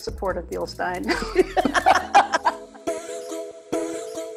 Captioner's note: laughing; cheerful upbeat music